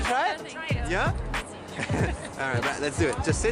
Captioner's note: laughs